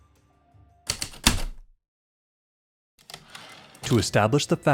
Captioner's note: heavy typewriter keystrokes, return slide